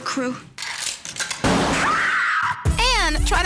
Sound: gunshot

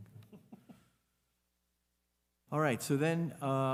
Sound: laughing

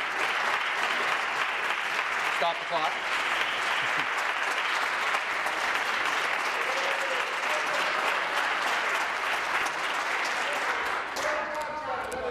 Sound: applause

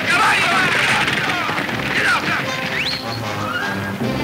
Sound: whistling at horses

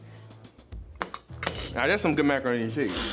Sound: plate clatters

